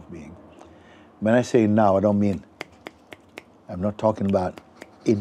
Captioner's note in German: schnippst mehrmals mit den Fingern